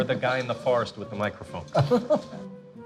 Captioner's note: chuckles